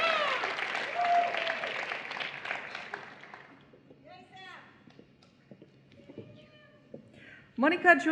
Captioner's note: applause